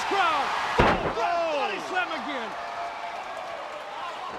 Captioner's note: Ric thudding on ring; crowd cheering